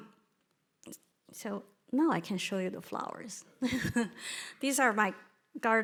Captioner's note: chuckles